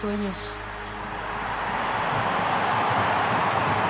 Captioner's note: crowd cheers